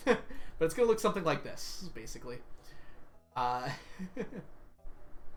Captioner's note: laughs; laughs